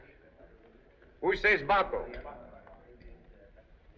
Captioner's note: men Chattering